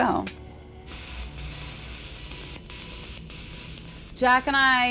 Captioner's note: radio static